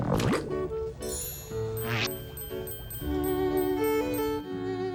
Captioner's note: bell dinging